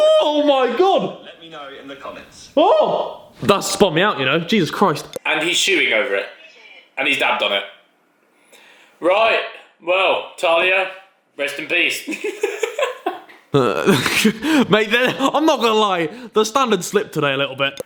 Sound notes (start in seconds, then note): 12.2 laughing